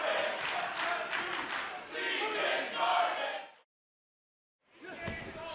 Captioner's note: fans chanting